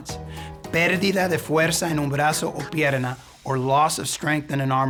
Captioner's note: speaking in Spanish